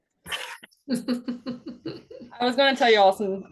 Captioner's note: attendee laughs